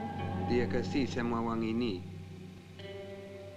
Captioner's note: Malay spoken audio